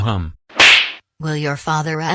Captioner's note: smack